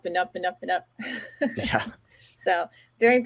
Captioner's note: chuckles